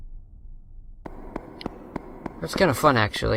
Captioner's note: clamping sound